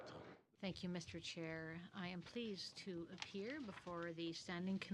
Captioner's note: speaking french